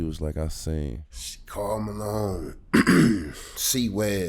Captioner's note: clears throat